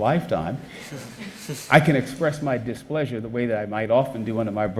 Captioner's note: audience chuckles